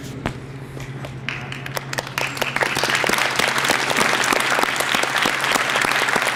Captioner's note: applause